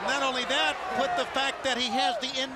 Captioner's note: crowd chatter